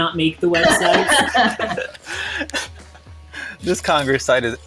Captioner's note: everyone laughs